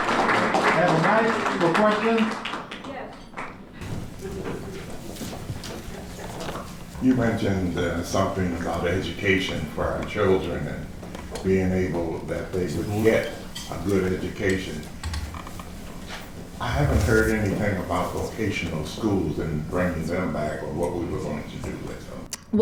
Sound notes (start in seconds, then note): 3.9 applause